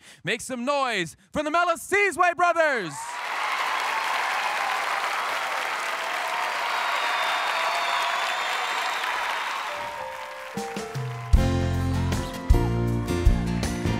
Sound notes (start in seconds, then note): 3.0 audience cheers; 9.8 rhythmic music